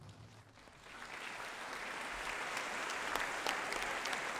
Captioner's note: applause